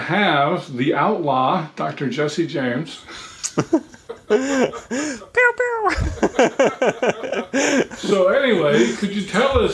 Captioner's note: chuckling